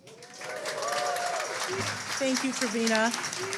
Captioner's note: audience cheers